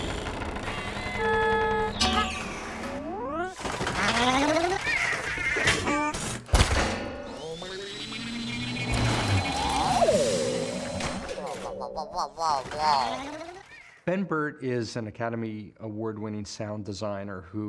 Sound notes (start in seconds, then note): 0.0 straining; 2.3 grunts in frustration; 3.9 shuddering; 6.3 thudding; 7.2 metallic warbling; 9.9 whirring; 12.6 wall-e shuddering